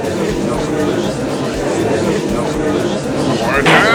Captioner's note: gallery chattering